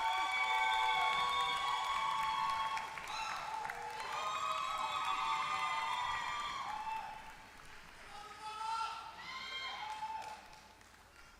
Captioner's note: applause